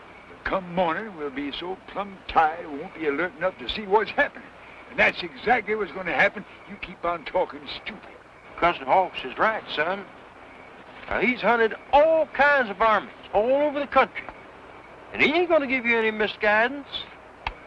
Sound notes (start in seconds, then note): none